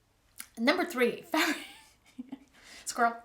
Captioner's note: laughing heartily